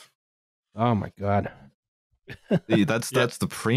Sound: laughs

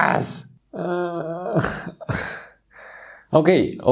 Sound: Chirik groaning

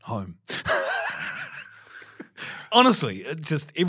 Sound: both laughing

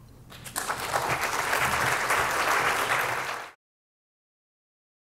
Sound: applause

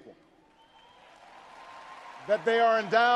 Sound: audience cheers and applauds

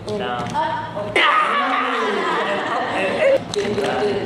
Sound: yahhh

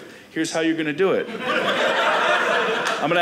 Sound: audience laughing

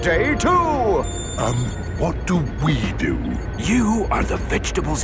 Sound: whispering

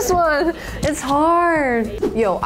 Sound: image squelches; image whooshes

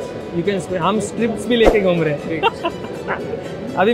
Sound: laughing

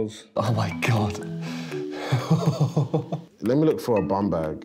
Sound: laughs

